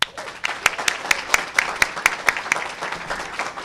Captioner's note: cheers and applause